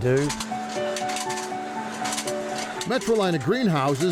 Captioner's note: gentle music; machine whirring